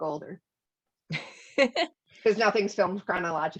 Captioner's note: laughter